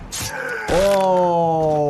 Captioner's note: monster screams